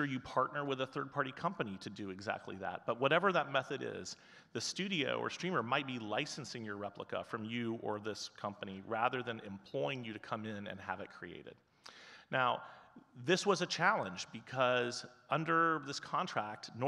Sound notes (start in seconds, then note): none